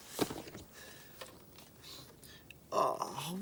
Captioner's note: sniffing